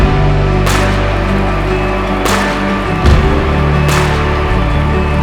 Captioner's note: crowd cheering